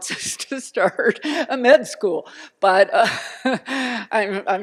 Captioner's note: laughter